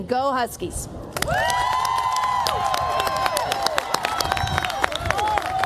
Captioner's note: cheers, applause